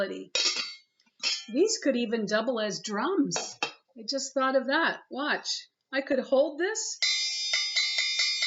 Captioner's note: cling tap cling